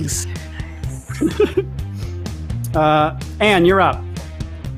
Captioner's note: laughs